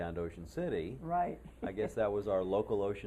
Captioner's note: laughter